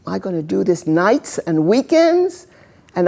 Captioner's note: none